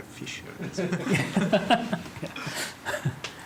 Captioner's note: laughter